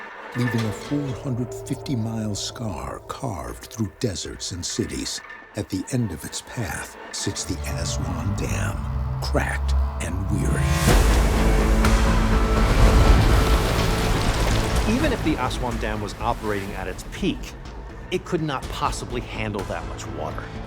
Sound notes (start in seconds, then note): 10.2 suspenseful music; 10.5 water exploding